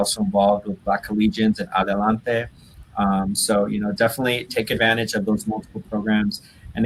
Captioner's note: foreign language